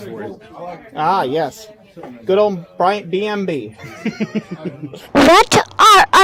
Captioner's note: laughs